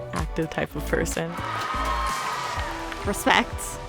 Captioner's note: audience cheering and applauding